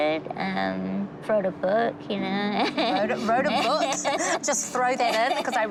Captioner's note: laughs